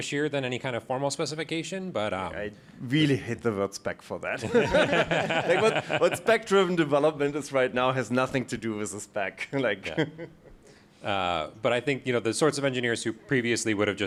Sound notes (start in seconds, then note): 4.4 laughing